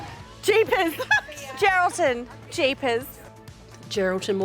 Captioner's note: laughs